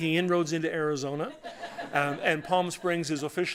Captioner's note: laughter